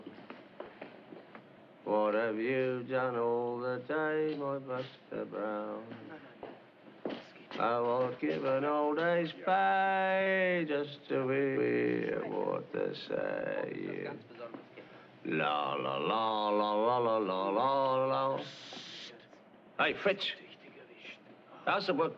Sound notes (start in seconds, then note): 18.4 shushing